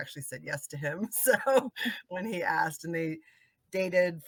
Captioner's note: laughing